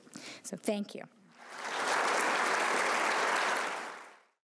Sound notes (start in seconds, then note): 1.3 applause